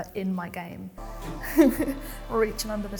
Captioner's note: chuckles